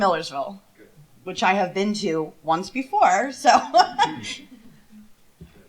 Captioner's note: laughter